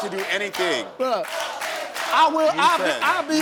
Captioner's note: audience chants